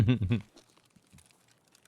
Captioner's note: laughing